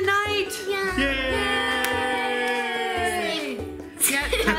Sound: cheering

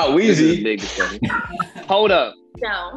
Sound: Madison laughing

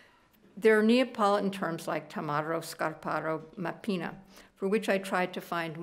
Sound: speaking italian

